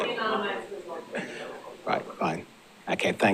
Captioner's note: laughing; speaks faintly